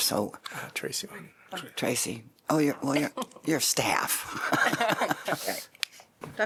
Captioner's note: laughter